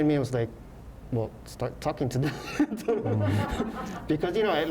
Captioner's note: laughs